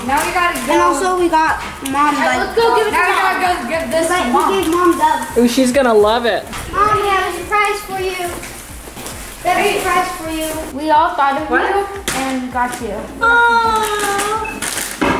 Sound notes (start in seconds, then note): 2.5 kids talking over each other